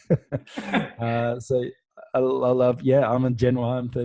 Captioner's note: both laughing